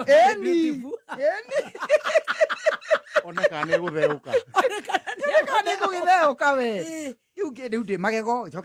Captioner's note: laughter